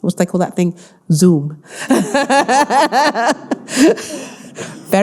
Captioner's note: all laughing